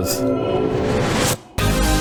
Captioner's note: ghost wailing; eerie theatrical music; upbeat pop music